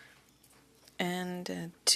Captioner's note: speaking French